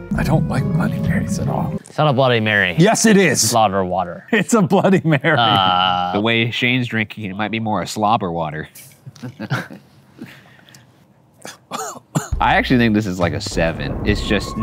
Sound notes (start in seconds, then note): 4.7 laughs; 9.0 laughs; 11.4 coughs